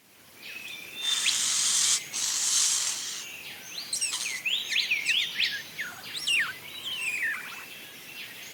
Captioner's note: ambient, birds chirps and calls